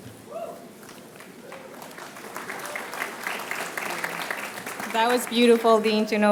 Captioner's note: applause